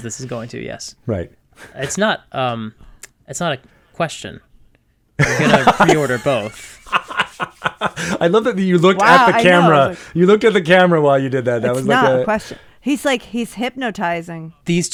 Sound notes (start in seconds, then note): 5.2 laugh